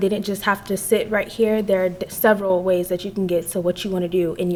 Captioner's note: none